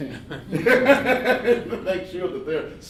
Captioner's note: laughing